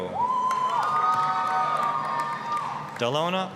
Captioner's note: applause, cheering